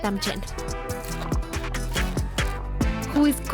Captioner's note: crunching